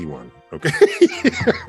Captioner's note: Tyson laughing